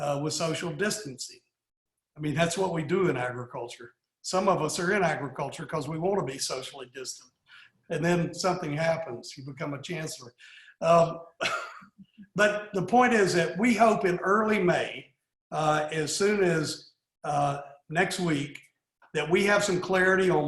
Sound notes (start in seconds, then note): 11.4 laughs